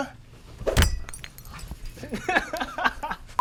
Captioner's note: kick thudding, glass breaking; Petchpanomrung laughing